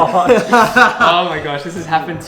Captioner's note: laughs